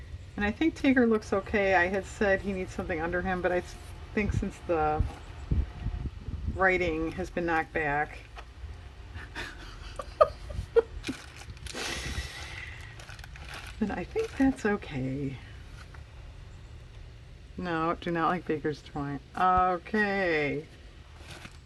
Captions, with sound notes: and I think Tigger looks okay, I had said he needs something under him, but I think since the writing has been knocked back (laughs), then I think that's okay no do not like baker's twine, okay